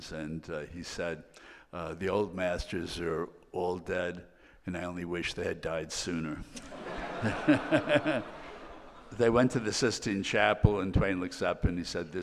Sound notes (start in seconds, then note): 6.5 all laughing